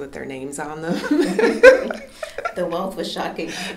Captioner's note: laughter